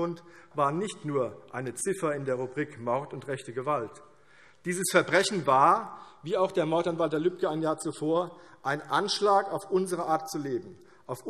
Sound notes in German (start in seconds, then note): none